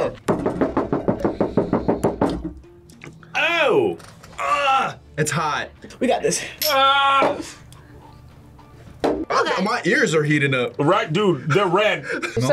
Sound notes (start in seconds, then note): 0.2 tapping; 6.7 yells